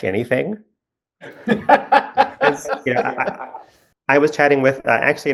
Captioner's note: laugh